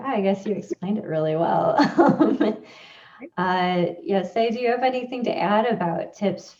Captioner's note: laughs